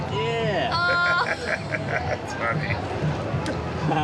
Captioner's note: laughing